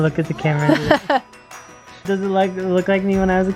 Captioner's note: laughs